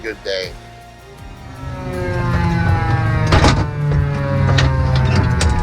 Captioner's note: engines roaring